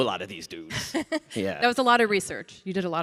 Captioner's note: laughs